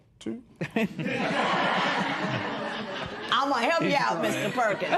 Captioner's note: laughter